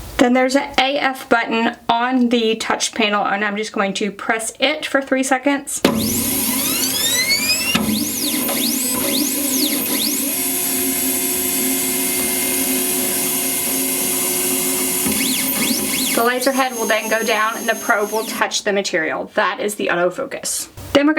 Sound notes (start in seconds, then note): 5.7 machine whirs